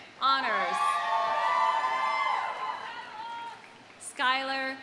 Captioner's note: audience cheering